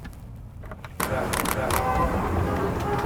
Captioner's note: camera shutter opening and closing